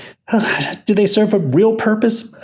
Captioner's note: sighs